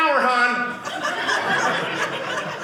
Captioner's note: audience laughing